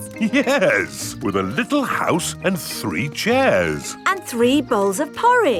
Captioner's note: chuckling